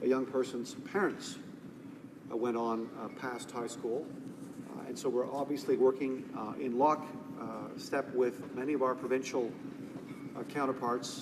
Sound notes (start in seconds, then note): none